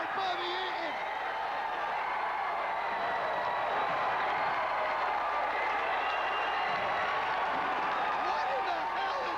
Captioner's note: crowd cheering